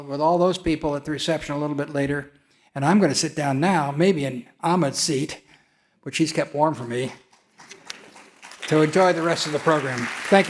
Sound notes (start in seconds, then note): 7.6 audience clapping